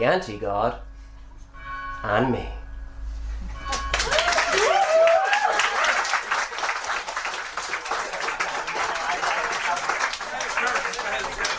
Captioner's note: church bell